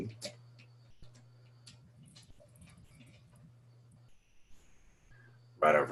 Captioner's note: typing Sounds